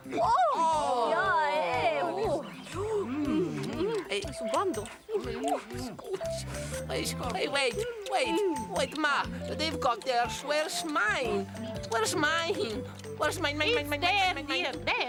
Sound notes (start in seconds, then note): 0.0 babies clamoring excitedly; 3.0 babies munching